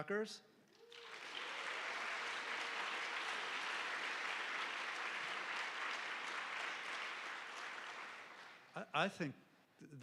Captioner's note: applause